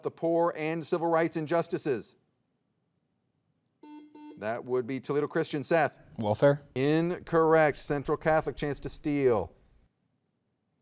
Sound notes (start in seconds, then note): 3.8 soft beeping